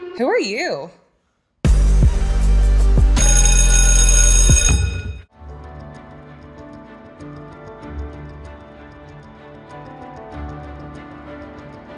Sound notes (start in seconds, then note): 1.7 ominous music; 3.1 bell ringing; 5.4 suspenseful music